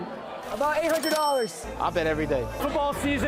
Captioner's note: registry chiming